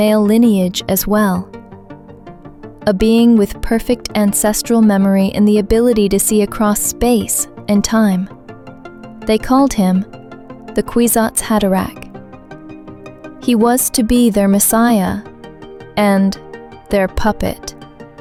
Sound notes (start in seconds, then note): 15.4 sarcastic